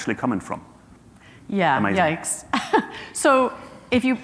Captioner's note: chuckles